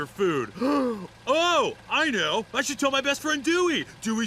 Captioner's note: gasps